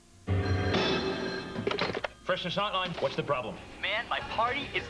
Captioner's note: phone Ringing